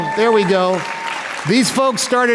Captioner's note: applause